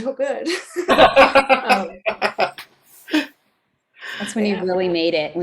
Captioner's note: laughing; laughs